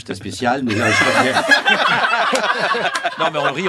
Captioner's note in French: rires